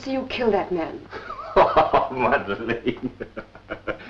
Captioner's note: laughs